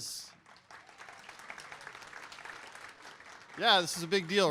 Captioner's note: applause